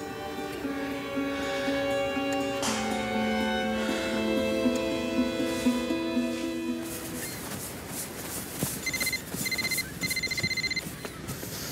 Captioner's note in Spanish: Suena el celular